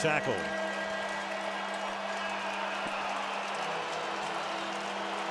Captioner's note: pa announcement